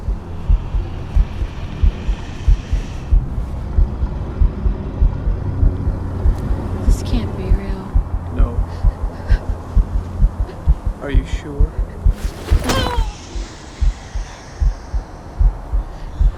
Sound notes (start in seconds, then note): 12.6 grunts